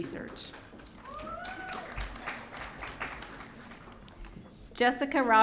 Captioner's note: audience cheering